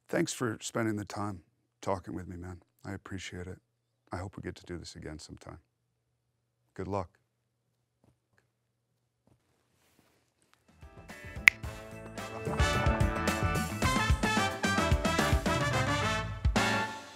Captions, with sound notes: Thanks for spending the time talking with me, man. I appreciate it. I hope we get to do this again sometime. Good luck. (snap) (brass funk music)